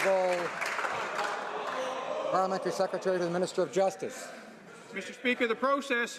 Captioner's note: some Applause